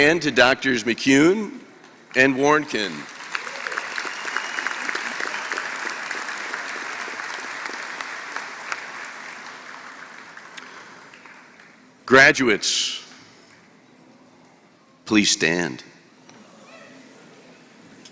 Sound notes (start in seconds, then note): 2.6 applause